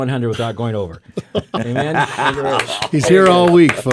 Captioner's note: hosts laugh